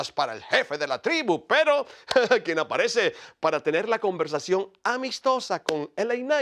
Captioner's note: laugh